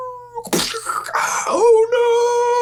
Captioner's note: splat noise